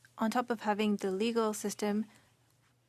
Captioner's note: speaking French